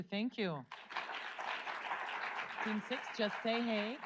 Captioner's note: audience applauds